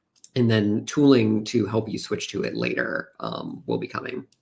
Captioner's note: none